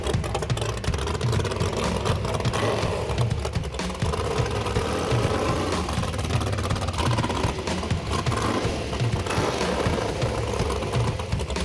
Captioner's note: engine revving